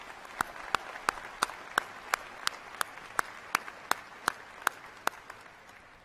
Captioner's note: cheers and applause